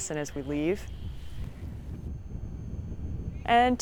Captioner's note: wind whooshing